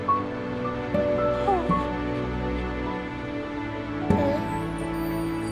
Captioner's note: whining